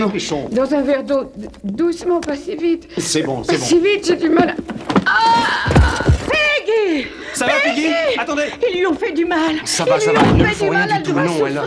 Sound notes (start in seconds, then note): 5.1 screams